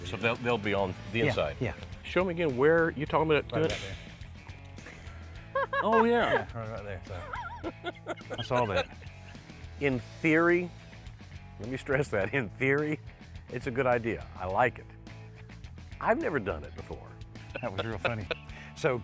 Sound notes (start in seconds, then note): 5.5 chuckling; 7.1 laughs; 17.5 laughs